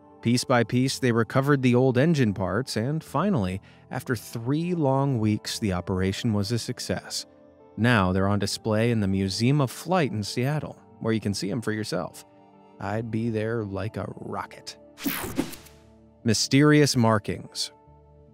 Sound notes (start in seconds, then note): 15.0 image whooshing